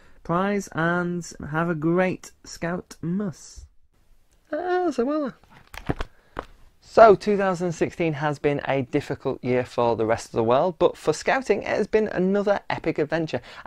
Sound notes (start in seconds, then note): 5.4 book closing